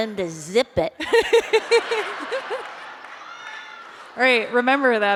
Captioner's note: laughter